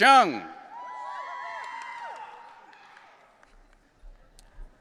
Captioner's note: audience cheering